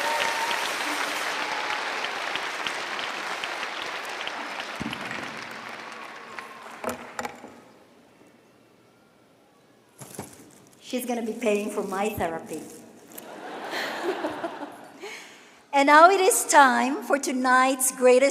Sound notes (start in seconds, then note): 0.0 cheering and applause